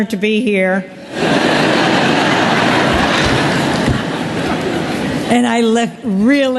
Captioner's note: laugther